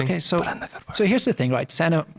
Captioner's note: whispering